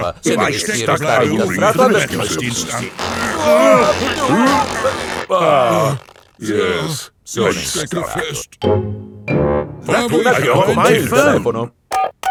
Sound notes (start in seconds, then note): 3.6 grunting